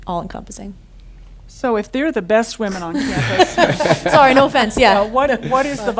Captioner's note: laughter